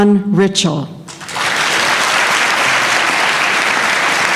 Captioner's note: applause